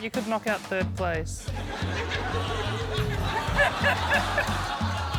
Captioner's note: laughter